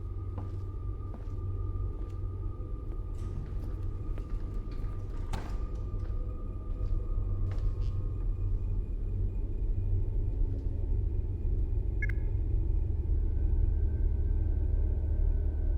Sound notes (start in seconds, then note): 12.6 machine beeps